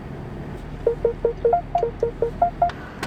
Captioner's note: a car beep